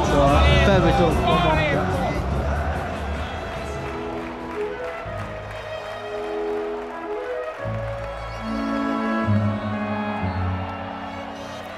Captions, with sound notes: so a fair result, yeah. (crowd distantly clapping) (gentle music)